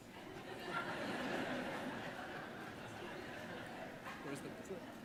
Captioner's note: audience laughing